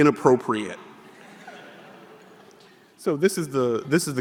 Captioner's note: audience laughing